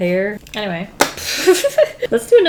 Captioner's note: laughs